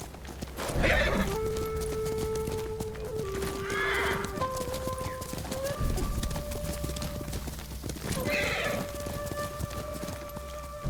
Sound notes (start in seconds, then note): 3.4 whistling; 6.4 ominous music